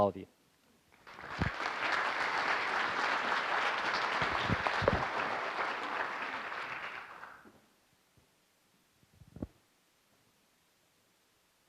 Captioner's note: applause